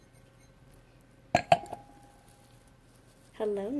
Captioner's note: glass clattering